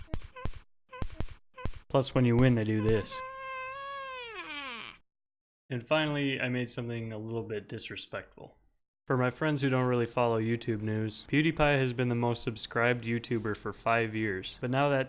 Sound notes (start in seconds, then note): 0.9 high pitched throat noise